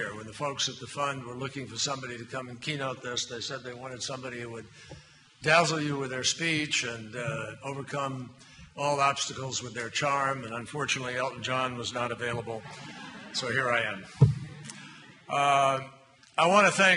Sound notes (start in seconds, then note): 12.4 laughter